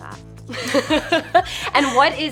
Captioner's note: laughter